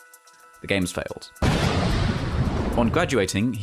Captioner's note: explosion SFX